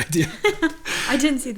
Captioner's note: laughs